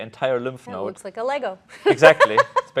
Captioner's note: laughs